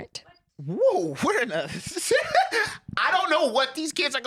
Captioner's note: laughs